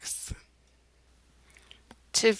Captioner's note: silence